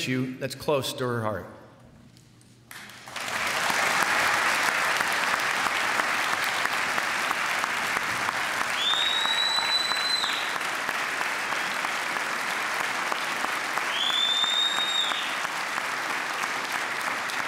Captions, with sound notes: that's close to her heart. [applause]